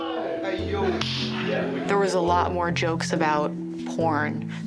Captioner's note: male voices